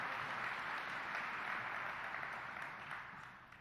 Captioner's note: applause